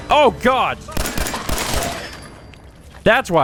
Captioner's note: blam! blam! blam! blam!